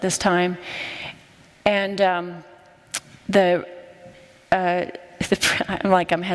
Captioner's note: stuttering